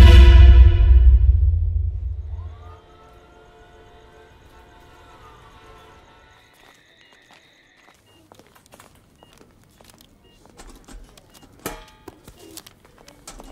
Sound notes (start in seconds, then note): 2.4 Siren; 7.7 Beeping sound